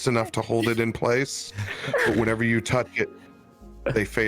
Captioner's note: melting breath